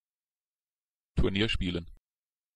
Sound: fast Pronunciation

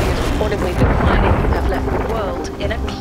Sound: iceberg crashes

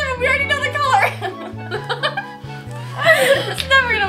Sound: laughter

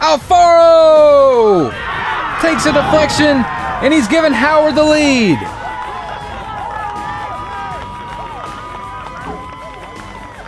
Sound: crowd cheers

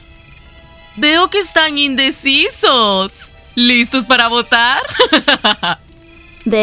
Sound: giggles

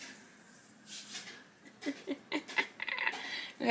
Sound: chuckles

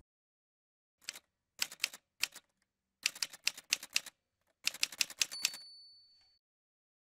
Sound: typewriter sounds

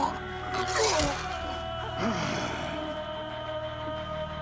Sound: grunting

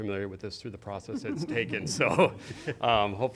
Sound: laughter

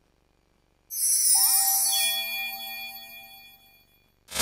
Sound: chiming sound

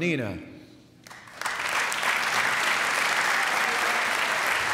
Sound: applause

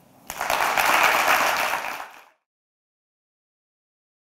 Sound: applause

